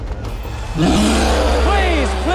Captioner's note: roaring